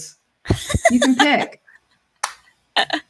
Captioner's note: laughs